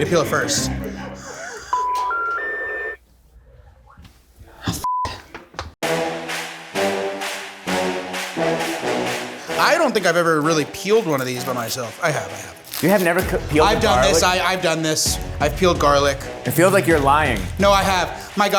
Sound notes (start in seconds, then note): 1.7 dial tone beeping; 5.8 suspenseful music